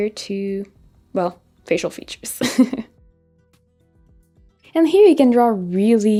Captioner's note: chuckles